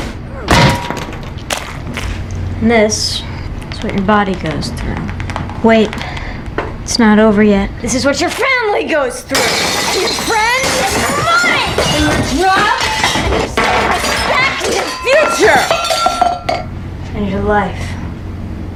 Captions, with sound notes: (clang) And this is what your body goes through. Wait, it's not over yet. This is what your family goes through! (glass breaking) And your friends! And your money! And your job, and your self respect, and your future! And your life.